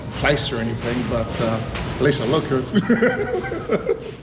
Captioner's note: laughs